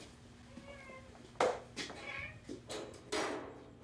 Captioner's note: cat mewing